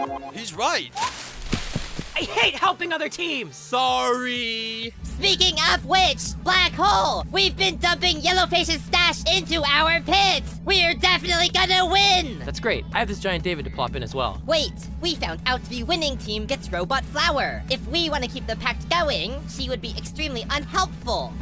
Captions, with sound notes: He's right! I HATE HELPING OTHER TEAMS! Sorry! [YELLING] Speaking of which, Black Hole! We’ve been dumping Yellow Face’s stash into our pit! We’re definitely gonna win! That's great! I have this giant David to plop in as well! Wait! We found out the winning team gets Robot Flower! If we wanna keep the pact going, she would be extremely unhelpful!